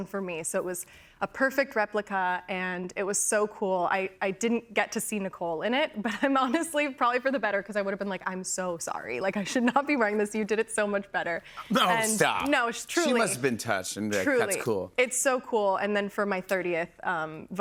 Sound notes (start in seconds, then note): none